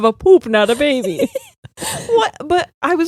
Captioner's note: both laughing